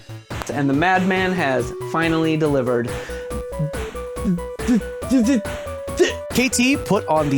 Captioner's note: stuttering